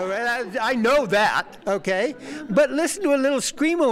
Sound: laughter

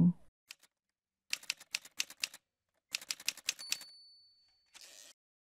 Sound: typewriter sounds

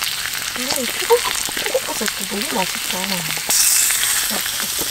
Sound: mumbling that the shiitake mushrooms are good

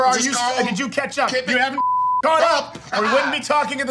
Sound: beeps

